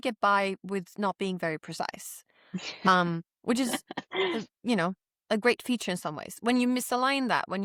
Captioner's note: laughs